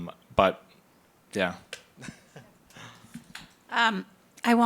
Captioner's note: laughs